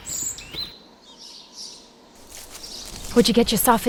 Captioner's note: birds chirp